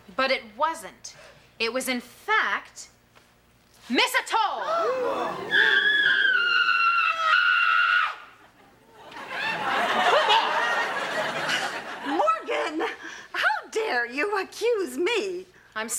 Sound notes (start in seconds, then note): 4.6 scream